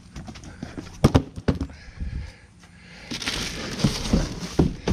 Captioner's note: cardboard thumping